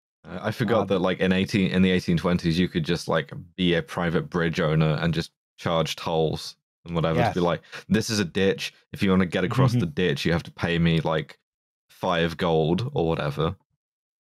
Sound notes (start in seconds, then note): 10.2 chuckles softly